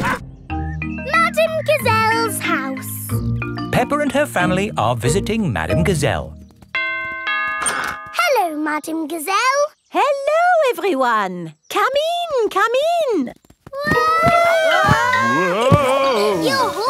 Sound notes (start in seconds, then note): 6.7 doorbell rings; 14.1 all yelling